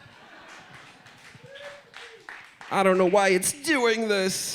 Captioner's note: crowd laughs and applauds